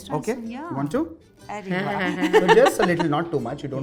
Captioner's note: chuckles